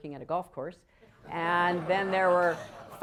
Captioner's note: laughter